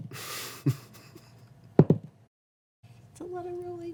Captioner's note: laughing